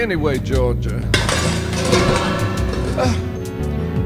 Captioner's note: crash